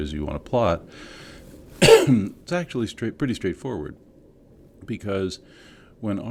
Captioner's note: cough